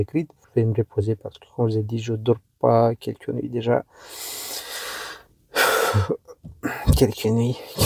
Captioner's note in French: soupir